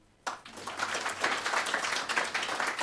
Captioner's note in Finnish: Aplodeja